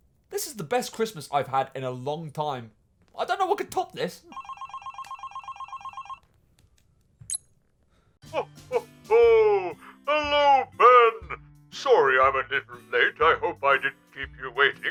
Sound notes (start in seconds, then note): 4.3 phone ringing